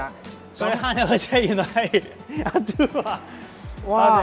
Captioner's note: laughs